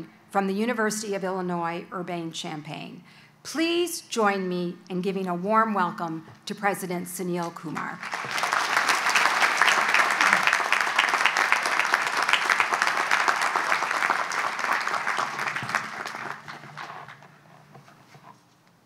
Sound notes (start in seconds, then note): 8.7 audience applauds